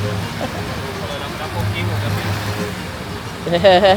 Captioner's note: laugh